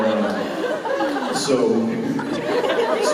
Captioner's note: Jensen laughs